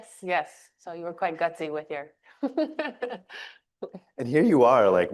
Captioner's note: chuckles